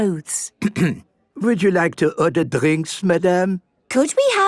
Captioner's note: clears throat